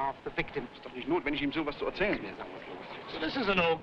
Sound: officers speaking foreign language

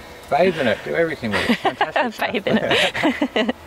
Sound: laughing

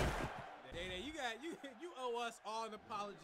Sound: booming

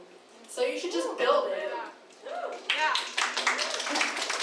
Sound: crowd cheering; applause

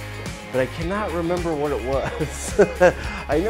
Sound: laughs

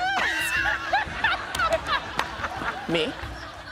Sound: laughter

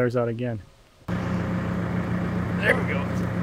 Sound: engine running

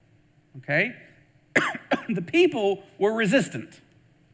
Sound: coughs

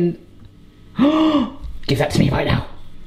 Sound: man gasps

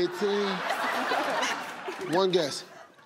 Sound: audience laughing

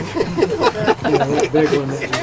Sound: laughter

